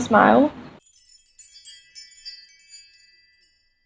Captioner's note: sparkly noises